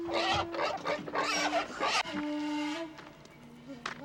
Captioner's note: pigs grunting